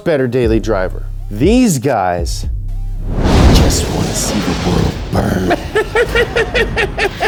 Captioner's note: laughs